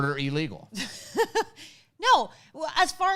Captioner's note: laughs